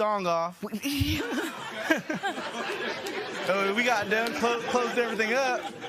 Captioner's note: laughter